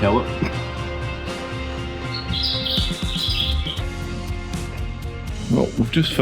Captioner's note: birds Tweet